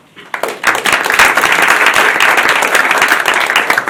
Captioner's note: applause